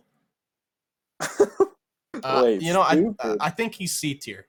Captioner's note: laughs